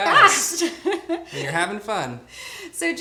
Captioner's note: laughs